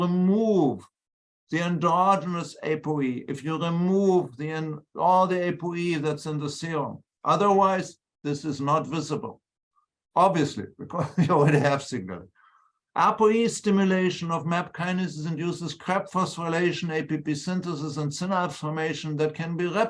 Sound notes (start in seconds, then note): 10.9 laughter